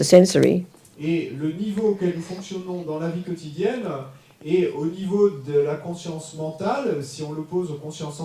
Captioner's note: audience member speaks in French